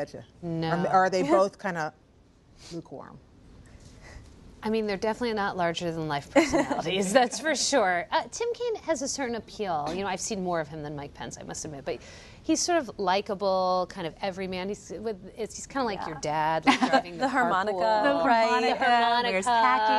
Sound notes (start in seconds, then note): 6.4 laughter